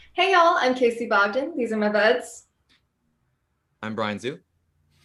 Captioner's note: none